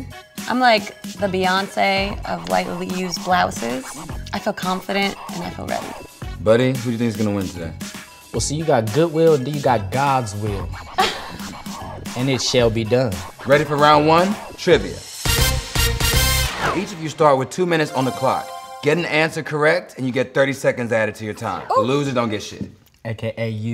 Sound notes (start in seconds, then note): 10.4 laugh